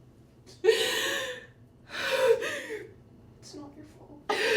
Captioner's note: inhala y exhala